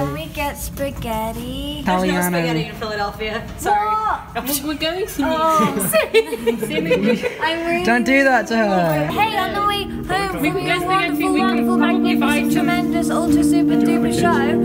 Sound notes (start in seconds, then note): 5.3 laughs